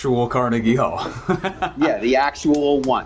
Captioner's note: laughs